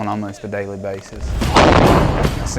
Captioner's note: explosion